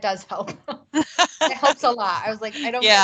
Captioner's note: laughs